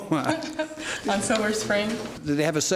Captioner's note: laughs